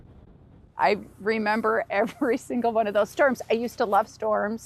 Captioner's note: chuckles